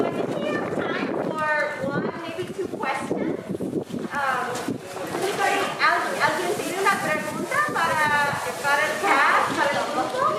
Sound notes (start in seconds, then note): 4.5 speaking in foreign language